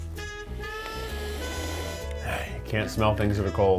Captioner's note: sniffing